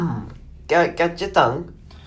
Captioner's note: attempts an italian accent